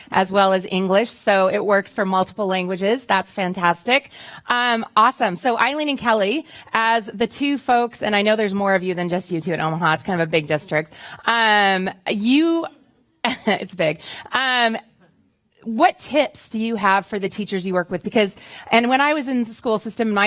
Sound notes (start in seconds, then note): 12.7 laughs